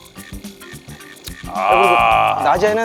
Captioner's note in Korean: 감탄